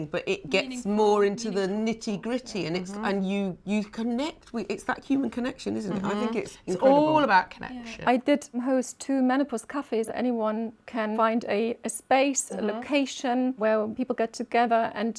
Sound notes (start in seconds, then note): none